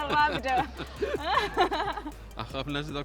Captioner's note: laughs